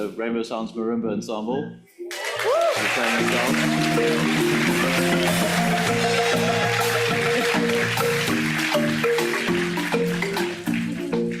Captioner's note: audience appplauds